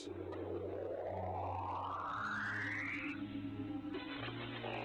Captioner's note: high pitched whining